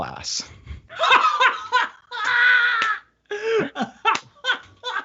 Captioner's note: laughing